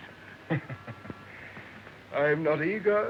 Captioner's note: chuckling